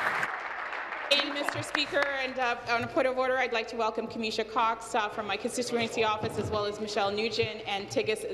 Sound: applause

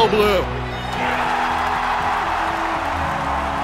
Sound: cheering

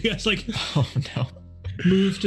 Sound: laughs

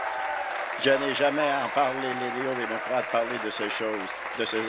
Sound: applause

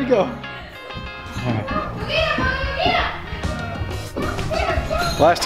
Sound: shouting in the distance

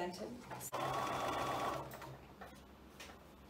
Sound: sewing machine whirs

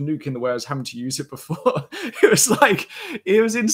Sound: laughs

